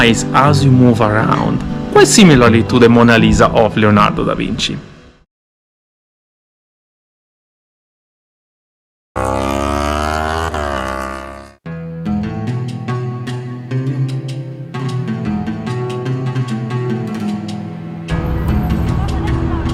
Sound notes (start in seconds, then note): 9.2 motorbike engine sound; 11.6 chill Arabic music